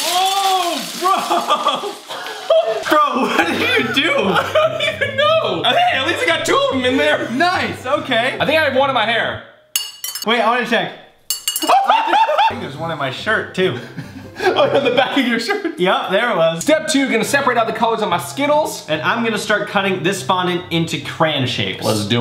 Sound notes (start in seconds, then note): 1.0 laughs; 11.6 laughs loudly; 13.7 laughs